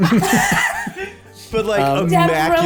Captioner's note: laughter